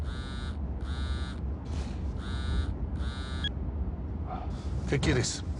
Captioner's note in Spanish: Suena el celular